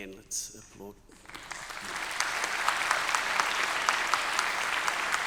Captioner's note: audience applauding